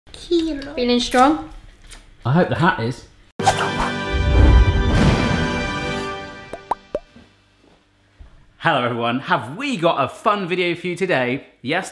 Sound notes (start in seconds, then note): 3.4 dramatic music; 6.5 electronic popping